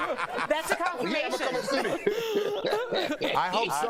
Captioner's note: laughter